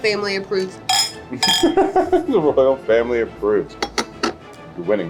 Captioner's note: chuckles